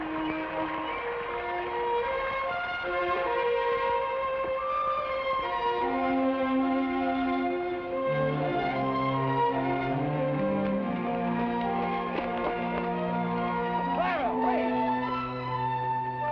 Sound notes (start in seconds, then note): 0.1 somber music; 9.4 footsteps patter